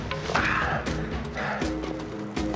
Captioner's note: Evan grunts